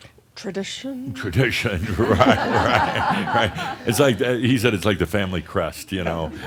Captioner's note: more chuckles